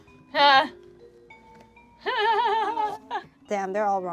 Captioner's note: laughs